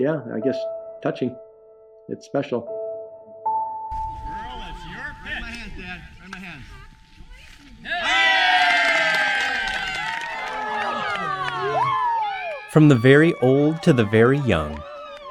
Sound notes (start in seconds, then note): 2.7 slow contemplative music; 7.9 audience cheering